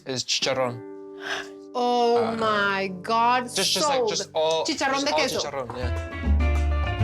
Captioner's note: Pati gasps